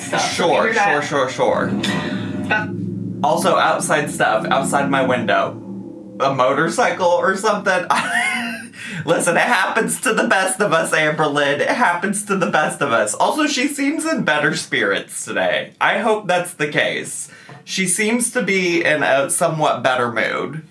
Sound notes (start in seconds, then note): 5.4 engine rumbling; 7.8 laughs